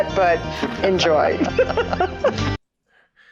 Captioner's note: laughs in Polish